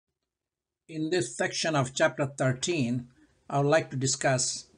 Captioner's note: voiceover